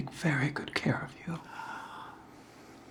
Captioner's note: Jesse exhales